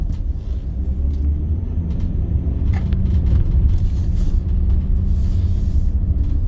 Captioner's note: car engine roaring